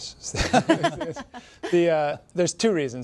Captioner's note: laughter